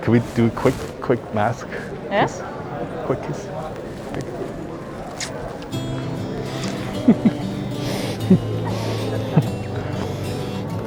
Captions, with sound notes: Can we do a quick, quick mask kiss? Quick kiss? (kissing sounds) (excited giggling) (inspirational music)